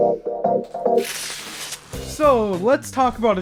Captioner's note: Rosè bottle gushes